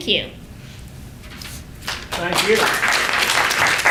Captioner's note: applause